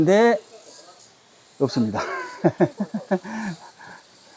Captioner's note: laughs